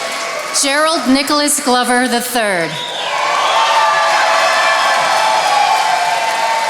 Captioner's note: attendees applauding